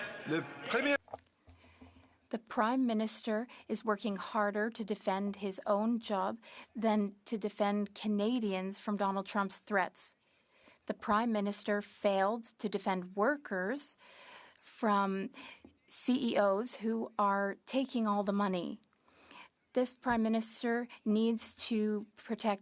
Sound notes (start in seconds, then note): 5.8 speaking French